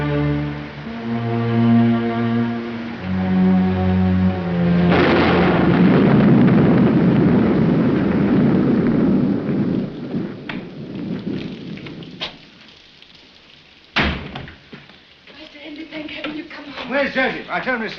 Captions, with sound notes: [thunderclap] Master Hindley, thank heaven you've come home. Where's Joseph?